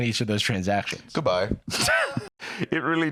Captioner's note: laughs